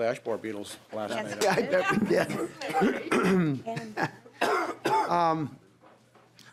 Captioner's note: laughing